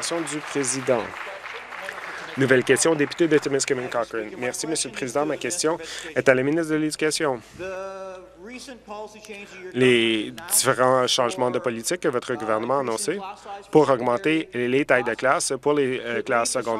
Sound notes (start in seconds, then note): 0.5 voice trailing; 2.2 applause